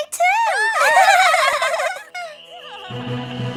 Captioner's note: triplets giggling; dramatic music